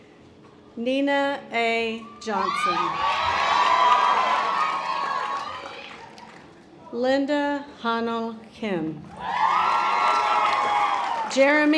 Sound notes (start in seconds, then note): 3.0 audience applause; 9.1 audience applause